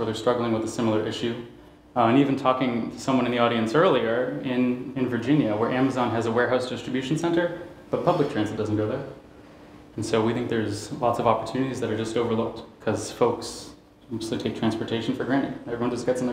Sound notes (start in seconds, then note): none